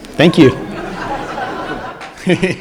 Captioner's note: laughter and Applause